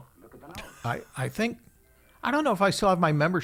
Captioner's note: laughing